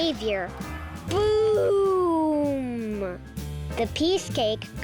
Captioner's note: firework booms